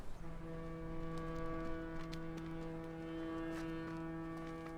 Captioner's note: ship horn blaring